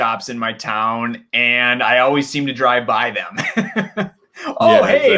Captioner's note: laughs